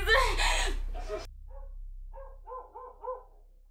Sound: dog barking

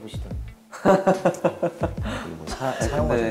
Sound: laughing

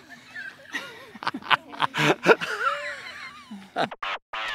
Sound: Kevin laughs

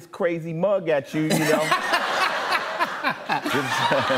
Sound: laughter

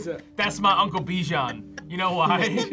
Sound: laughs

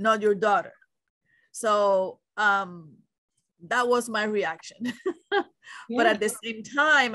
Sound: laughs

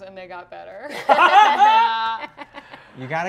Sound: laughing

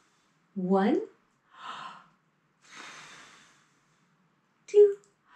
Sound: deep breath; deep breath

